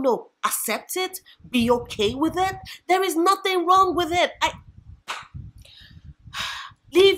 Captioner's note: sigh